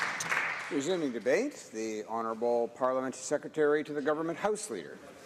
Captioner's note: applause